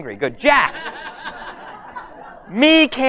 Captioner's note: audience laughs